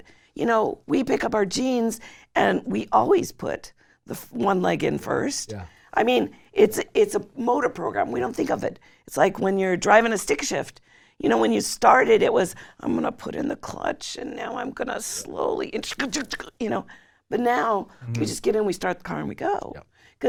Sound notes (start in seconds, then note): 16.0 making engine noises